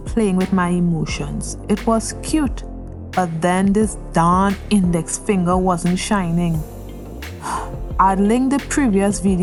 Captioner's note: sigh